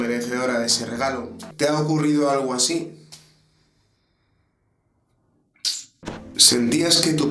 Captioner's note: silence